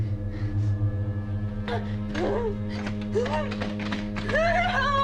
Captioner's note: Maggie moaning